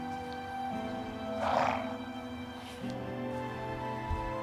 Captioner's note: horse snorts